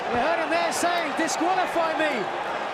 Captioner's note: crowd chatter